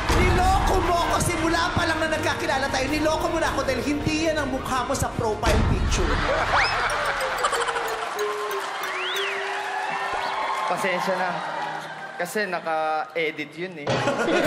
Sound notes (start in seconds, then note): 5.8 crowd laughing